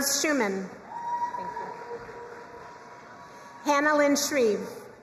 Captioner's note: crowd cheering and applauding